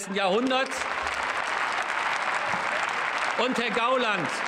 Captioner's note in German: Beifall